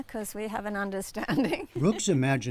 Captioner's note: laughter